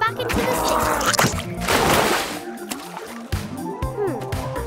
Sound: water splashes; slug pops

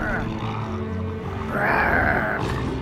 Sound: growling

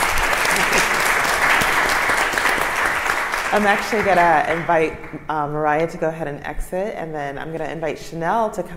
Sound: applause

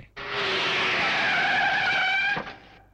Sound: brakes squeal

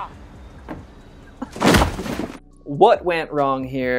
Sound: crunching box

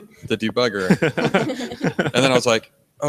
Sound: others laugh

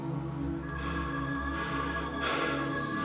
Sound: heavy breathing

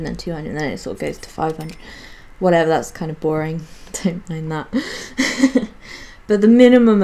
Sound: giggles

